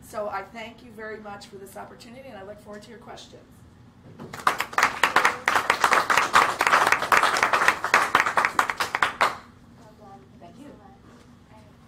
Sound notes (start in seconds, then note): 4.2 applause